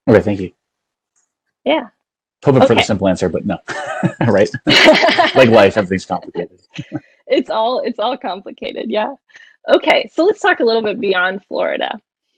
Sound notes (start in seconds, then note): 5.2 laughing